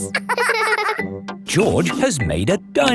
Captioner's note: both laughing